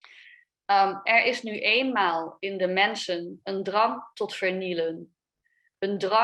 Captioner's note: speaks a foreign language